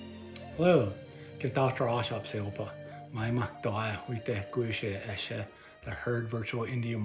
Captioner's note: non-english speech